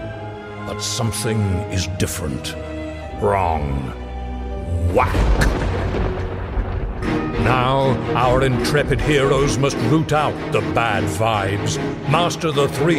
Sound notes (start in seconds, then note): 4.9 thunder strikes, music picks up tempo